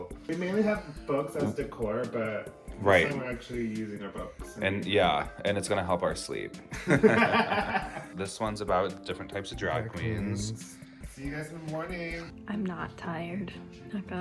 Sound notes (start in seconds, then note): 6.7 both chuckling